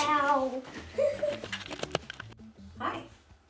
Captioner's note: laughs